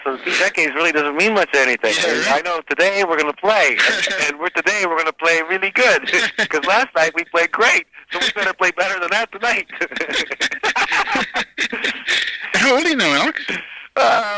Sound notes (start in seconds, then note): 9.4 both laughing